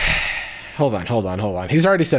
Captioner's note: sighing